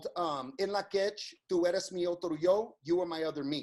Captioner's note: speaks in foreign language